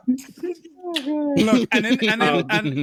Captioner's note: laughter